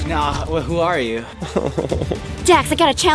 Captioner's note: sighs worriedly